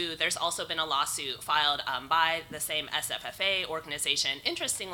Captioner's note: none